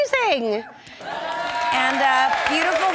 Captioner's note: audience cheering